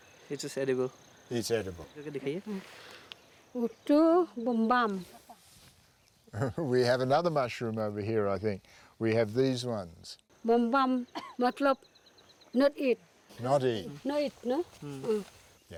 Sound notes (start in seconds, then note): 3.3 speaking in foreign language; 6.3 chuckles; 10.3 speaking in foreign language